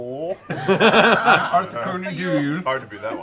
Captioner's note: laughter